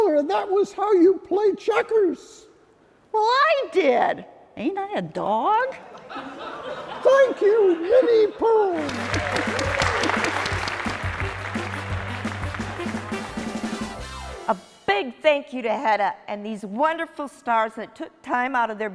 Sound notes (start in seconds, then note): 12.3 clapping